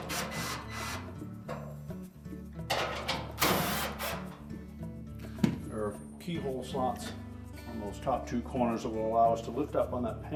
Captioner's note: drilling sound